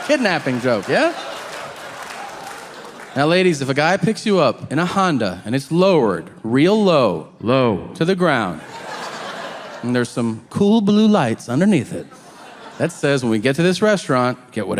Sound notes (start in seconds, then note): 8.5 audience laughing